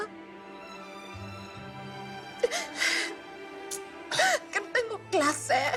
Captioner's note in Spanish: Sollozos